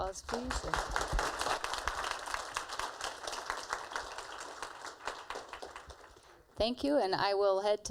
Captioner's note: applause